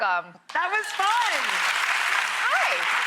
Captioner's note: audience applauding